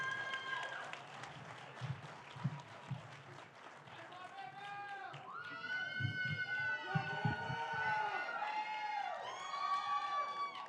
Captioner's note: applause